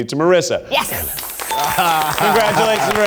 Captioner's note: audience applauds; bell dings